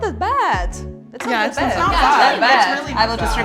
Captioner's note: contestants agreeing